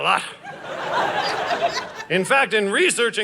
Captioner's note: audience laughing